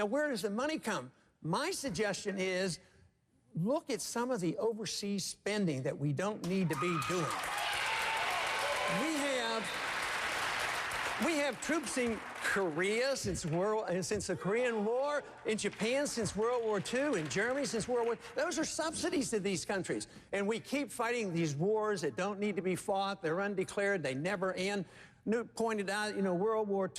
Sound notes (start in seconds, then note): 8.7 applause